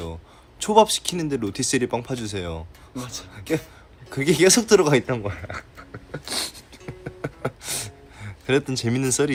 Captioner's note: laughs